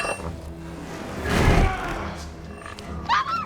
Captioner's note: grunting with effort